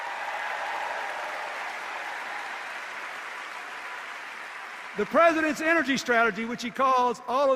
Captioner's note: cheers and applause